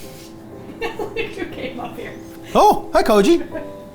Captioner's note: laughs